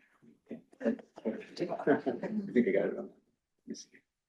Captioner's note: quiet chatter